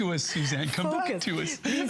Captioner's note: laughter